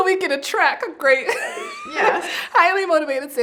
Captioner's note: laughs